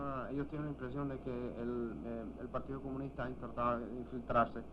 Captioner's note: speaking in Spanish